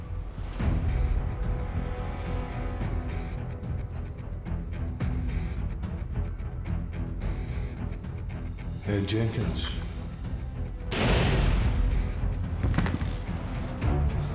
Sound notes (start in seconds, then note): 8.9 scottish accent; 10.9 gunshot fired; 12.6 jenkins thuds on ground